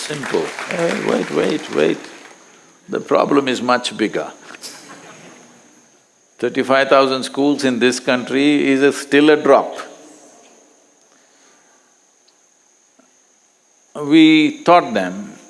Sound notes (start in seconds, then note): 0.0 applause; 4.6 few Laugh